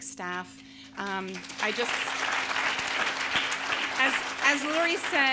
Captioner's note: audience applauding